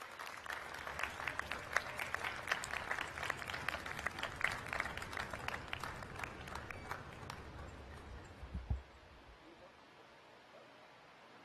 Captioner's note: applause